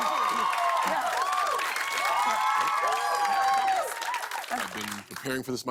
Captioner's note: cheers and applause continues